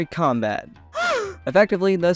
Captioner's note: gasp!!!